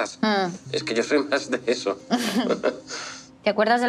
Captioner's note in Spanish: ambos ríen